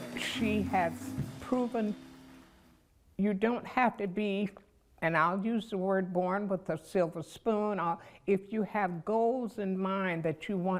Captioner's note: applause